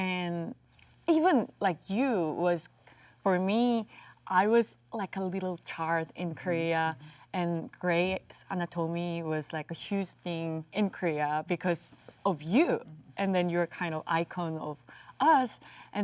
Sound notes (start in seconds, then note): none